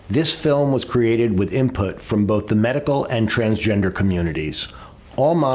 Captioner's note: none